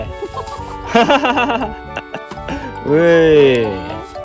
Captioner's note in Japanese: 笑い